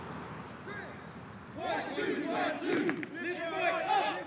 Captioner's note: drill sergeant yells